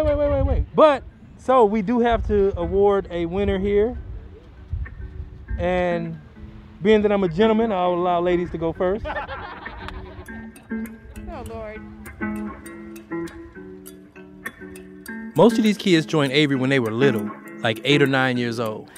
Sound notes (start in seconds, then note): 12.0 all laugh